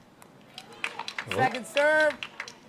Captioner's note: applause